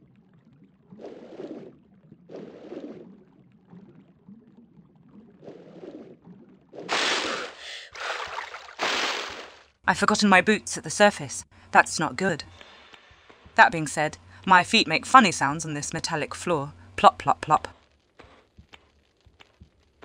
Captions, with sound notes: *swimming noises* *breathing* I've forgotten my boots at the surface, that's not good. That being said, my feet make funny sounds on this metallic floor, plop plop plop. ^^